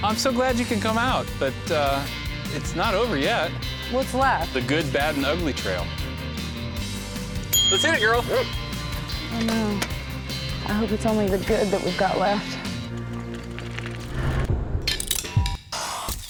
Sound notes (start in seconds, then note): 7.5 bike bell dings